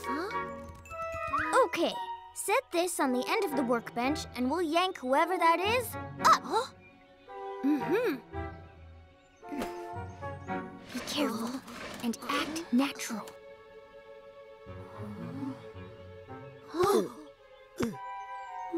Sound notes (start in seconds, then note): 11.2 whispering; 16.9 all gasp